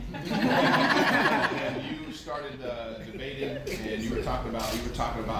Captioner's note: laughter